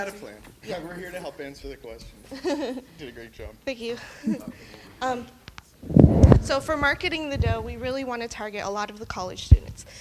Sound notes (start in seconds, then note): 2.3 laughing